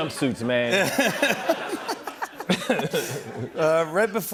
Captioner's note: laughter